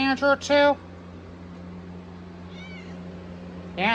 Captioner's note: Caprice meows